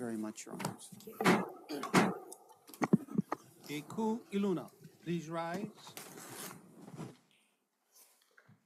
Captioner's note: gavel bangs twice